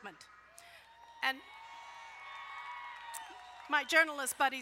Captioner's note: crowd cheering